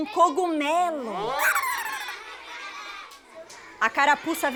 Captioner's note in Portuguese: risos